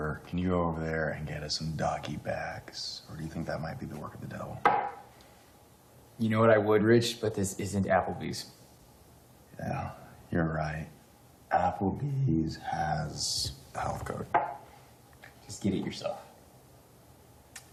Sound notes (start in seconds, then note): none